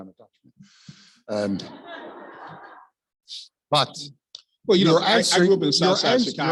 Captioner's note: laugh